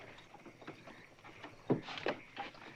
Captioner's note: crickets chirping